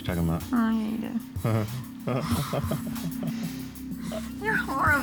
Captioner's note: chuckling